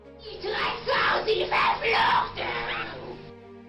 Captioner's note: speaking in Latin